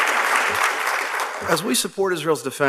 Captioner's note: applause